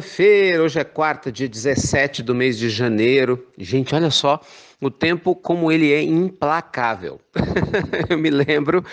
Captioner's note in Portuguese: risos